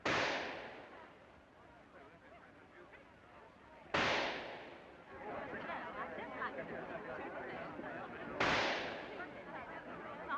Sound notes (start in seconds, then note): 0.0 gunshot; 3.9 gunshot; 8.4 gunshot; 9.4 crowd murmuring